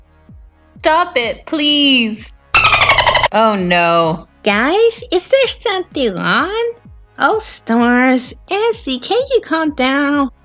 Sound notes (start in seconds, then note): 2.5 beep!